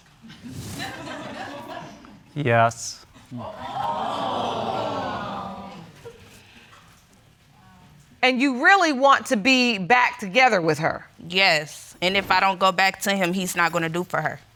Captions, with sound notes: (AUDIENCE LAUGHING) Yes. (AUDIENCE EXCLAIMING SYMPATHETICALLY) And you really want to be back together with her. Yes, and if I don't go back to him, he's not gonna do for her.